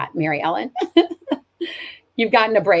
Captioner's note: laughs